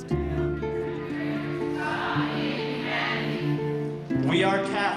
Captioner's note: crowd praying